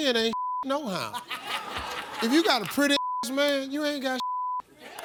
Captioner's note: beep; beep